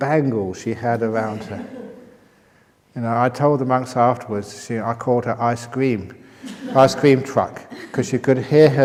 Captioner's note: laughter